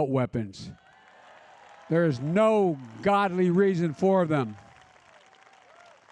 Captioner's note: applause